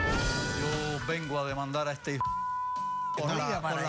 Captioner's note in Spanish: Bip